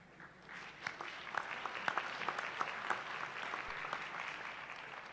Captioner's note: applause